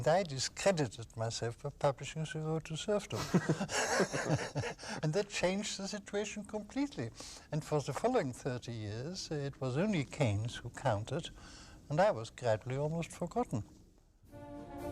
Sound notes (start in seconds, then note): 3.1 Hayek and interviewer laugh